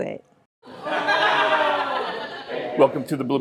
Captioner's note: laughter